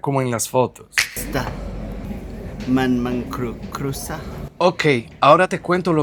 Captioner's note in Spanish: hablando en chamorro